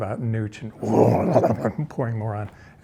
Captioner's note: growling noisily